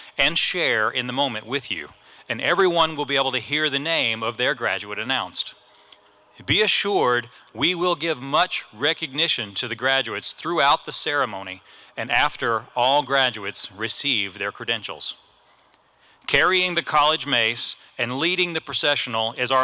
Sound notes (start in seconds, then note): none